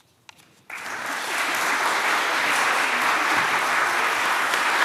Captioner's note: applause